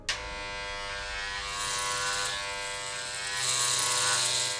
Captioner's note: razor buzzing